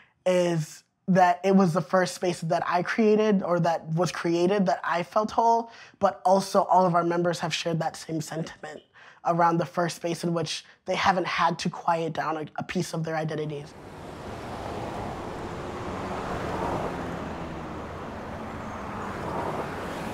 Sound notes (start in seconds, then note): 15.2 traffic sounds